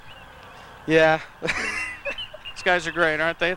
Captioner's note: laughs